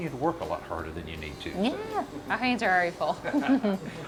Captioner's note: laughs